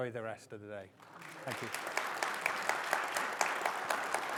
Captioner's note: audience applauding